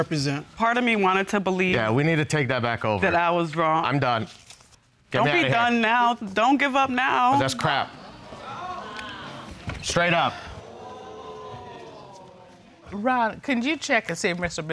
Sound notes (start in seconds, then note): 9.8 audience exclaiming